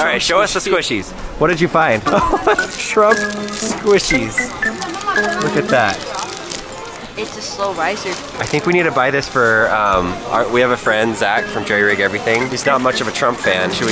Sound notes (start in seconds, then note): 2.0 laughs